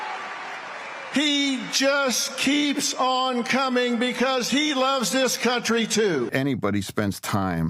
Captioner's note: applause; cheers and plus